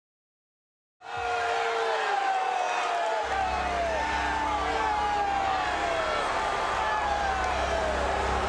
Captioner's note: crowd cheering